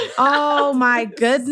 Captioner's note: laughs